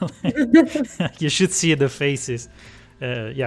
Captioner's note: laughs